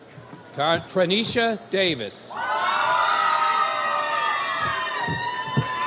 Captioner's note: audience cheers